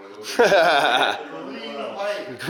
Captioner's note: laughs